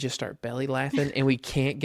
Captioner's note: laughs